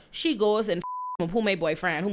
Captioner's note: beep